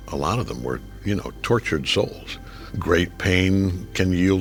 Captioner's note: none